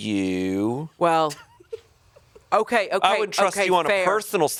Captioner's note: chuckling